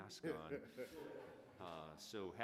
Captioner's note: everyone laughing